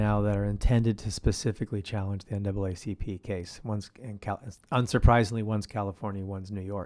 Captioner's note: none